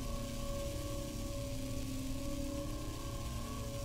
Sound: none

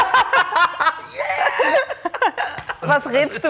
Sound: lacht

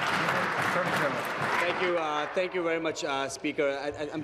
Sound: applause

